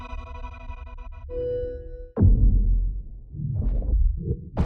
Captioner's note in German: verzerrtes grollen